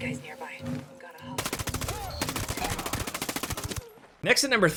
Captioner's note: gunshots popping